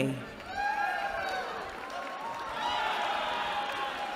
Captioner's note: cheering